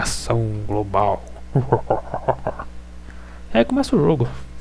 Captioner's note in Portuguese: risada do mal